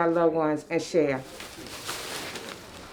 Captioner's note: bags rustling